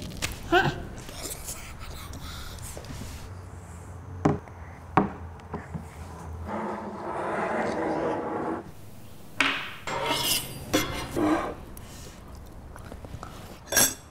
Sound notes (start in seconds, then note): 0.5 soft grunt; 6.9 cup scraping; 9.4 snack knocking into table; 9.8 fork scraping; 13.8 clanking